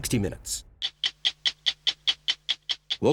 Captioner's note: clock ticking